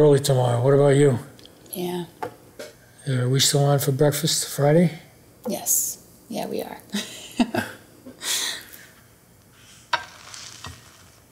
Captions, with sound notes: What about you? - Yeah. - Are we still on for breakfast Friday? - Yes, yeah, we are. [laughs]